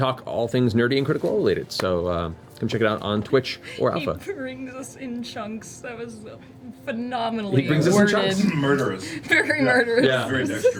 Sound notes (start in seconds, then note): 4.6 laughs; 9.0 laughs